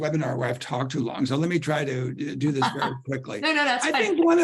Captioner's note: laughter